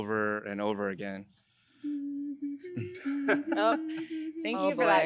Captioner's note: humming